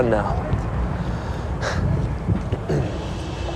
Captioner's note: chuckles